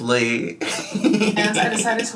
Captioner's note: laughs